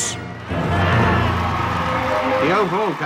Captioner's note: crowd cheering